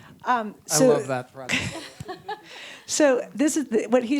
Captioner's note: laughs